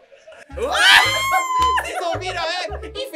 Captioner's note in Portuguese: gritam